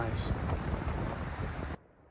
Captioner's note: wind whooshing